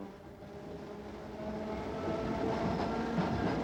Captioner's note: train noise